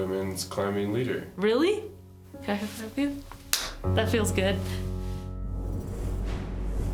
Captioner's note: high-fiving